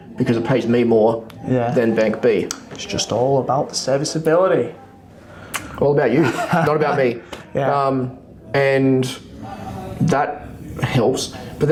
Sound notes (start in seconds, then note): 6.2 laughs